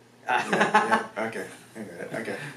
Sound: laughs

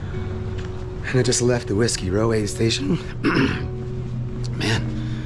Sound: clears throat

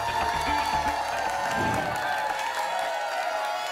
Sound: whoosh; applause and cheering cont

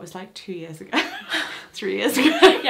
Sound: they both laugh

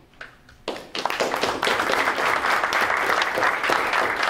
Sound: applause

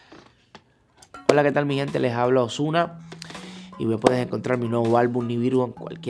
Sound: speaking in foreign language

